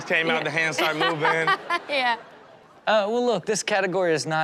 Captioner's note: laughs